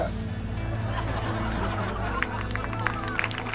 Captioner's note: audience laughing; audience applauding